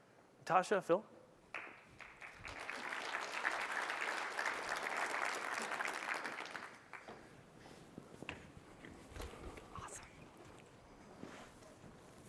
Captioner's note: applause